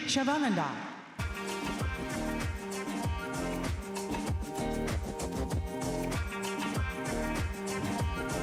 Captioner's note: applause